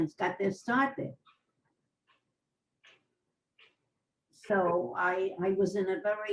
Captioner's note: pauses for 3 seconds